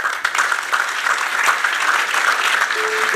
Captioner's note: applause